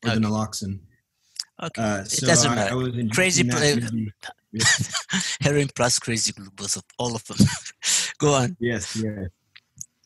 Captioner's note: laugh